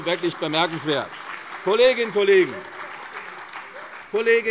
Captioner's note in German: Beifall bei der CDU und dem BÜNDNIS 90/DIE GRÜNEN